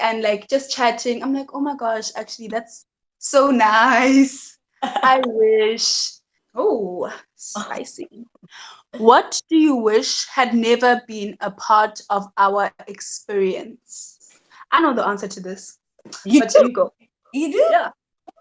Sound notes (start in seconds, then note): 4.8 laughs